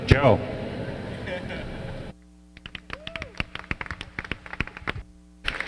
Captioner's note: laughter, applause